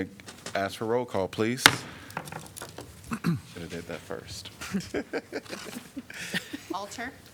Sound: laughter

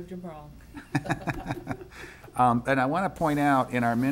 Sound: laughing

